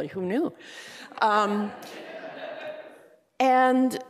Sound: laughter

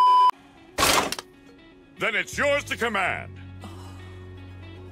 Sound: beep; cans crumple

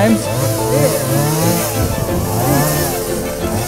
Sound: chainsaw

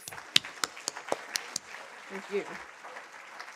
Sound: audience applauding

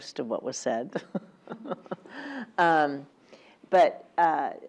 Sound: laugh

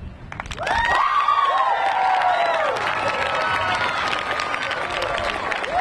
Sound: audience cheering and clapping

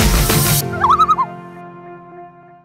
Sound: loon call

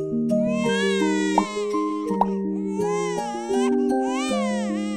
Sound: baby crying

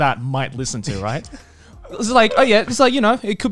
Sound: laughing

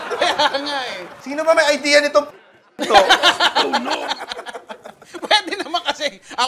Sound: laughs

